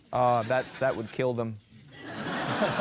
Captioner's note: laughter